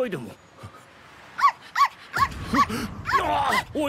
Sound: dog noises

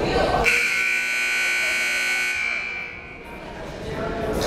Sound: timer buzzes

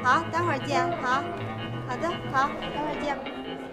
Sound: speaking Tibetan

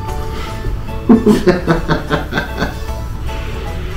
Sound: laughs

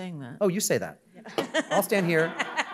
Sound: laughs

